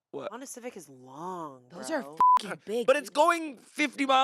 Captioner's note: beep